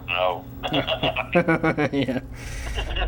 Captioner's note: laughter